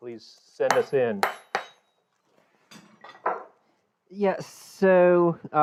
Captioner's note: metal clangs